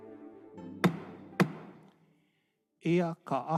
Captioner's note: gavel bangs twice